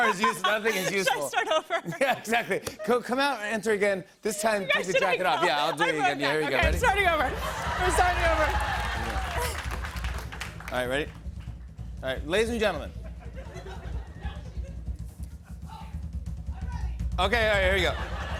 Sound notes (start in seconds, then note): 7.2 cheers and applause